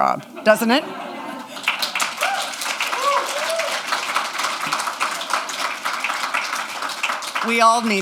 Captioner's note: audience cheers and applause